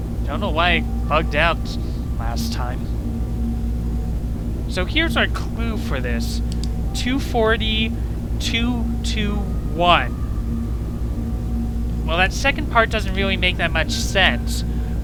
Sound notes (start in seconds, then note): 6.5 pen click